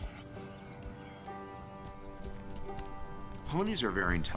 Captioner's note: horse approaching